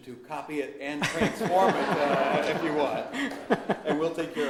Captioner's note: Lessig and audiences laugh